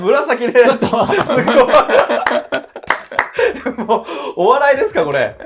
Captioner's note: laughing